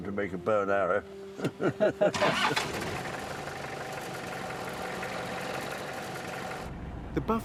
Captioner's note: both laughing; jeep engine revving